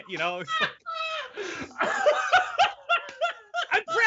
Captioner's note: laughing loudly